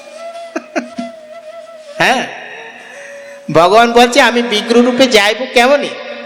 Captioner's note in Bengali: সশব্দ হাসি